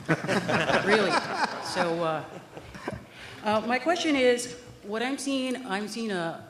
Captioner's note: laughter